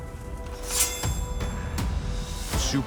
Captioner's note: sword rasps